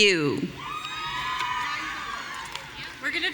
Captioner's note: audience cheering